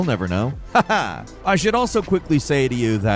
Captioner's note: chuckles